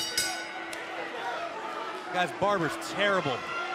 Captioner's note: bell ringing